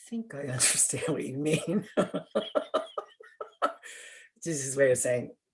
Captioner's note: laughter